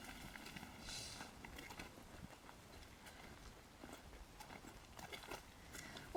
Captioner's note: wind blowing